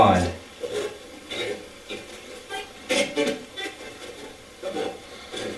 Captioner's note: static playback transmitting